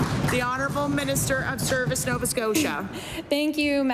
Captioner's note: applause